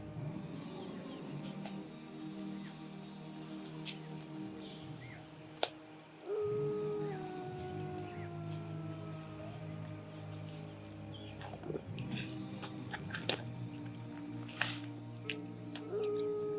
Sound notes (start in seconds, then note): 0.0 wolf yelling; 2.1 crickets chirping; 12.6 plucking